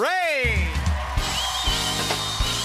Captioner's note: cheers and applause